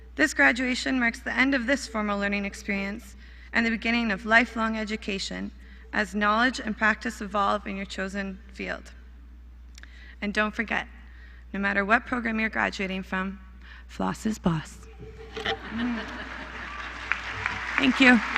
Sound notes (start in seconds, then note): 14.6 applause; 15.0 laughter